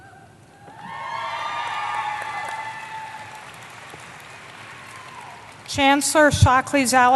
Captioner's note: applause